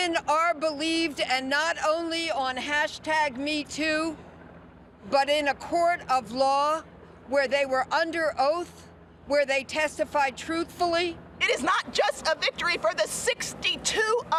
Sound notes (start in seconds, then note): none